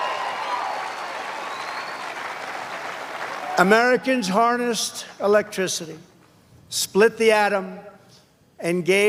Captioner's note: cheers and applause